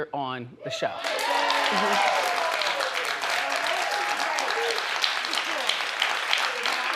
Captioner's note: audience cheers; audience applauds